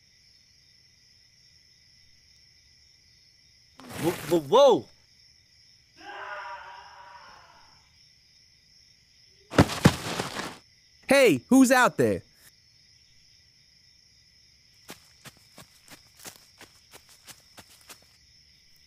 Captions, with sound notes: - Whoa. [Scream] [Thud] - Hey, who's out there?